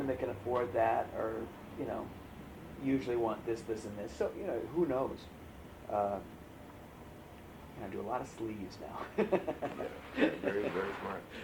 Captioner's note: laughs